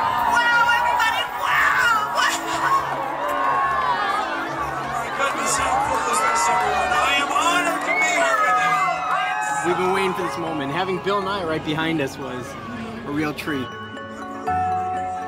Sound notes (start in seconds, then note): 2.7 indistinct chatter